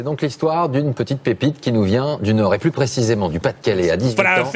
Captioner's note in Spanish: habla en un idioma extranjero